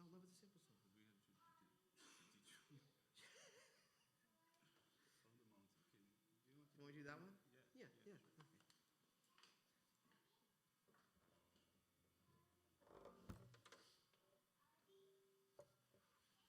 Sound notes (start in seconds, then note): 2.2 speaking faintly